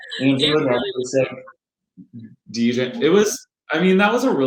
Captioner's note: microphone distorting